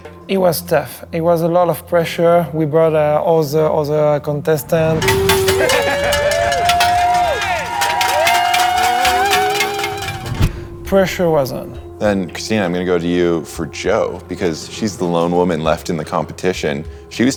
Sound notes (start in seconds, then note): 4.5 metal clanging; 4.7 crowd cheering